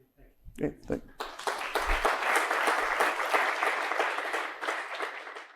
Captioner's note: applause